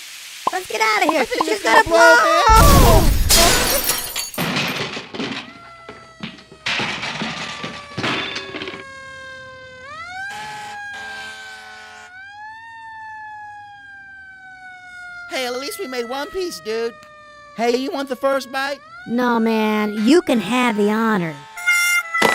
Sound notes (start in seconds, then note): 1.8 they both scream; 4.2 explosion followed by sirens; 22.1 sound of burnt frybread falling